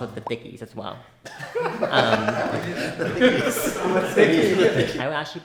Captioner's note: everyone laughing